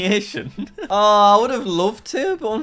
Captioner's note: laughing